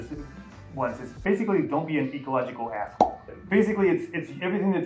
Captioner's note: pop